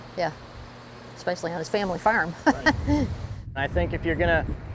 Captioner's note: laughing